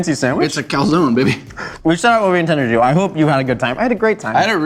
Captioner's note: mumbles with mouth full